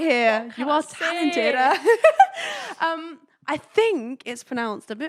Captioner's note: laughing